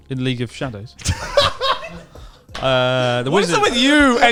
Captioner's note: all laughing loudly